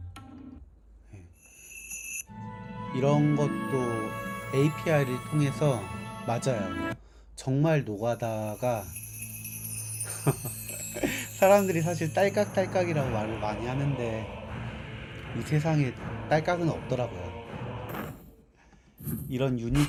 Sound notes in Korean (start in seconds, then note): 10.1 웃음